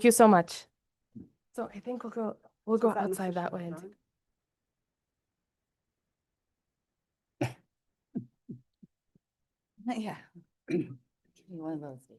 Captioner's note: pause